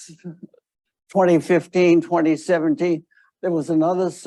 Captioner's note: none